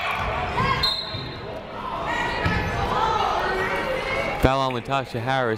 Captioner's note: whistle blows